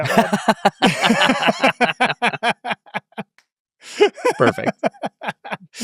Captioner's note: laughing